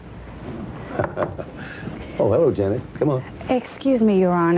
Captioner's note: chuckles